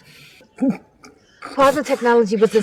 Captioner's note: Essix grunting